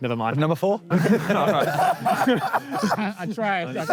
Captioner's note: Sidemen laugh